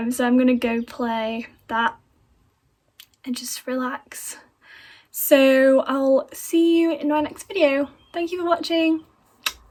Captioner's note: blows kiss